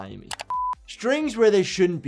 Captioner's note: keyboard keys clicking